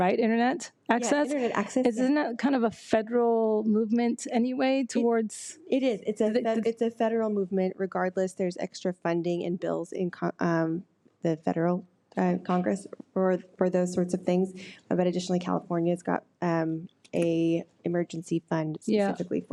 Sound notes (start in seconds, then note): none